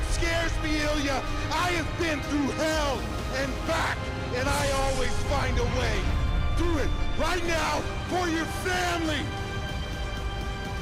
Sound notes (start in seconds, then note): none